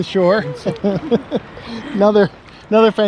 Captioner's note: laughs